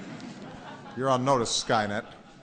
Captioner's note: laughter